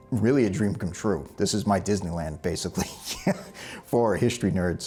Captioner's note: laughs